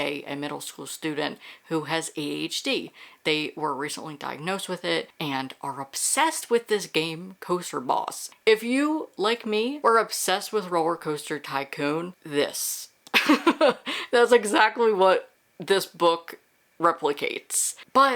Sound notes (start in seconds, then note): 13.1 laughs